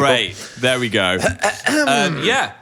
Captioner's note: clears throat